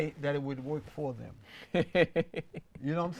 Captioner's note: laughs